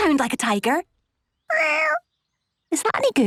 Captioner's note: small meow